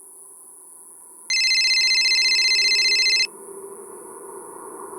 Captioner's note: cell phone ringing